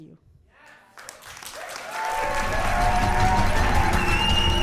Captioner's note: audience applauding